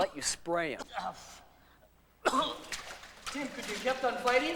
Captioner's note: coughing